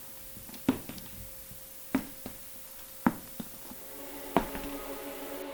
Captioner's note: footsteps approaching